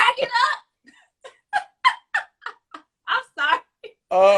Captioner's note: laughs